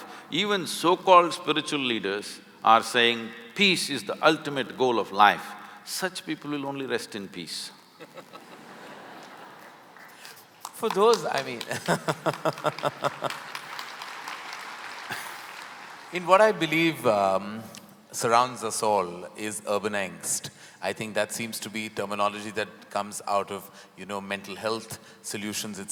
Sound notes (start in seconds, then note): 8.3 laughter/Applause